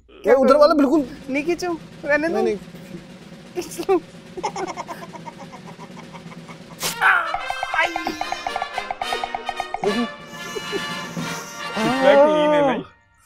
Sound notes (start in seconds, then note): 6.8 scream!